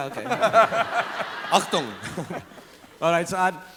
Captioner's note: laughs